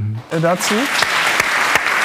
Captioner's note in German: Applaus